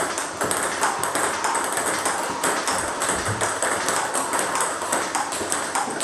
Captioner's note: ball ping pong hitting continues